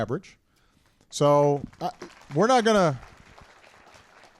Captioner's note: applause